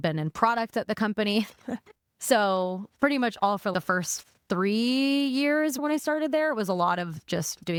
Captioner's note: laughing